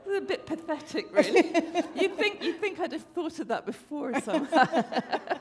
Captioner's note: laughter